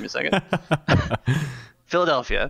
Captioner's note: laughs